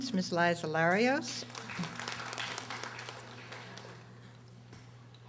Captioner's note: audience applauding